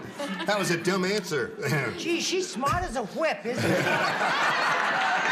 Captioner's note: laughter